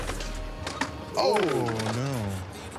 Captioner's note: skateboard clatters